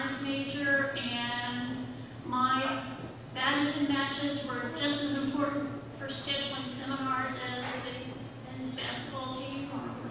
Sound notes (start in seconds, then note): none